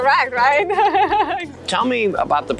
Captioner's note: laughing